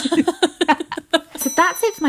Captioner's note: both laughing